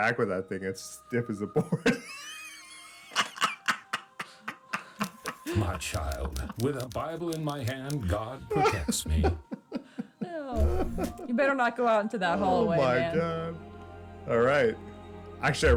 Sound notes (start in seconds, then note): 1.4 laughs